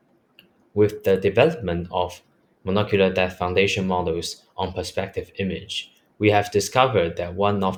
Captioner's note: click